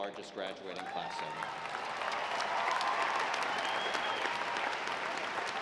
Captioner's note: audience applauding